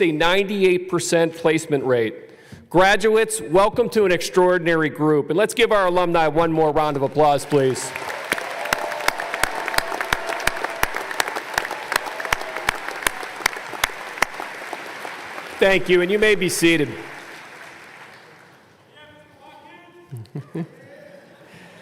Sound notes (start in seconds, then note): 10.1 applause